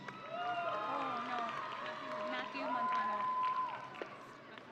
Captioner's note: audience cheering